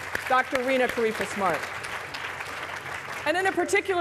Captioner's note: applause